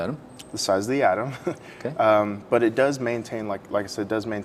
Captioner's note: laughs